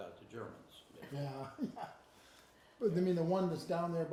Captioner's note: chuckles